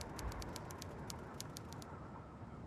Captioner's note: keyboard clicking